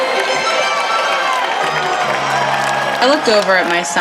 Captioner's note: crowd cheering